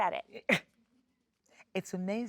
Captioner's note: Sheryl Lee chuckles